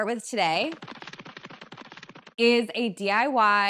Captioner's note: feet patters